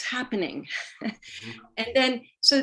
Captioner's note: laughs